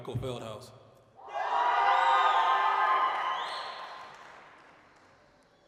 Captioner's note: applause, cheering